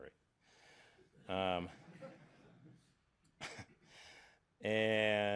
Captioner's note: laughter